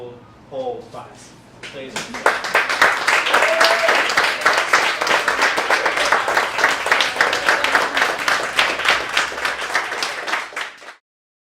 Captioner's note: applause